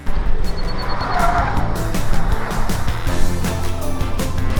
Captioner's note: tires screech; upbeat music